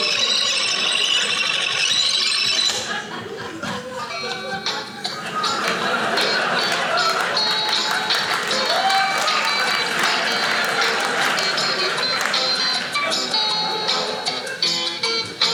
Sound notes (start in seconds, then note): 3.8 lively acoustic guitar music; 5.2 audience laughing; 6.9 audience cheering